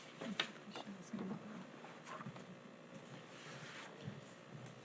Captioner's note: speaking faintly